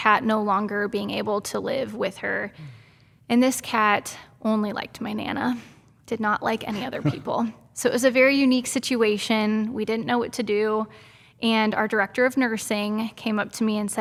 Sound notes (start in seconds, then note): 6.8 laughing